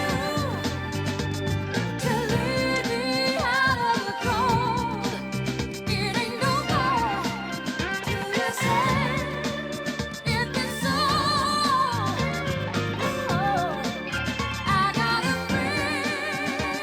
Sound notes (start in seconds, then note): none